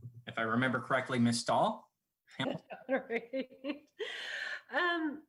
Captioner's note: laughing